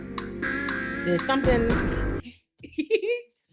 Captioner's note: laughing